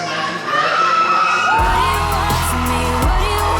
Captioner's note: audience cheering